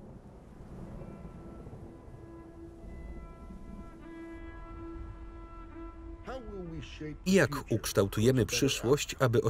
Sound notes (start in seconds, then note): 0.0 thunder rumbles; 0.6 ambient instrumental music